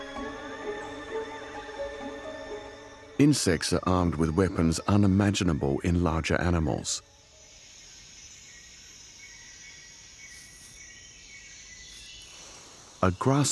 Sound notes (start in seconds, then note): 7.2 birds chirping; 7.2 insects trilling